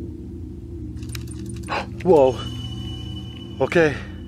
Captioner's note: fence rattles